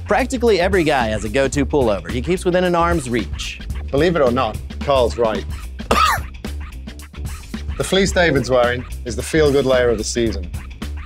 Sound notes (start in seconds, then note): 5.8 coughs